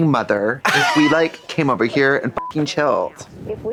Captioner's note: beep; beep